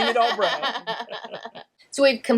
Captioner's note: laughing